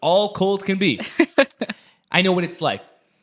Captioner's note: laughs